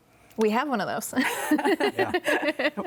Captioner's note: both laugh